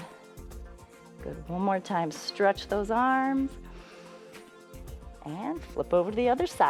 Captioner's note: inhales